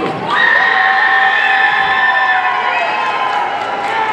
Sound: audience cheering

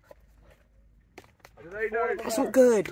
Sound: none

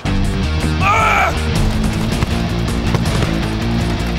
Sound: groans

